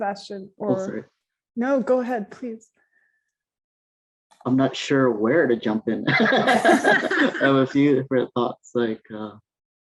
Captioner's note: laughs